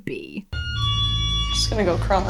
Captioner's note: alarm continues being triggered